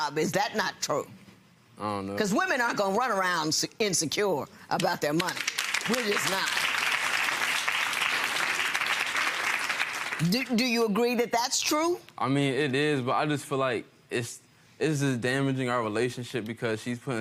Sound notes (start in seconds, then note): 5.2 audience applauding